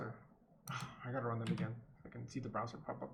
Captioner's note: sighs